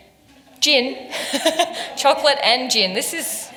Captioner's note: laughs